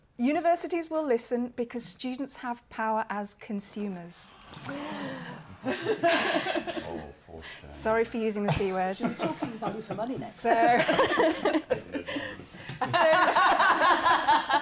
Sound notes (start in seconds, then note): 4.3 gasping; 12.7 laughter